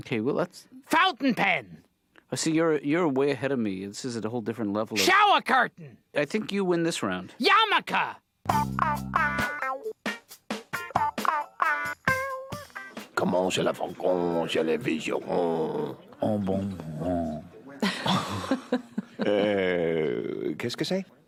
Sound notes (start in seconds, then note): 12.8 speaking french